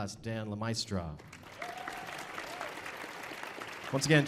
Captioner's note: audience applauding